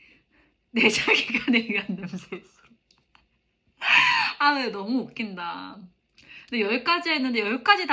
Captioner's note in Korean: 웃음